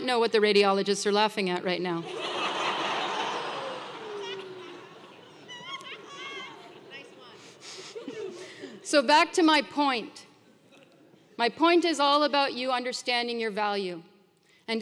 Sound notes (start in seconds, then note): 2.1 laugh